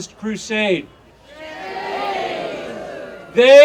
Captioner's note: audience cheering